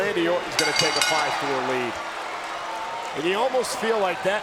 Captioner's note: bell rings